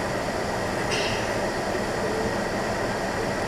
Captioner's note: clears throat